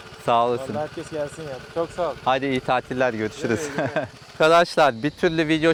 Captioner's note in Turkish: kahkaha